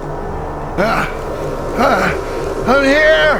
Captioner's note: Tom grunting